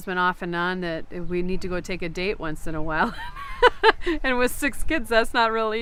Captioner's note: laughs